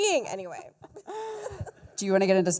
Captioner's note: laughter